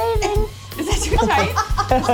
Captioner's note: laughter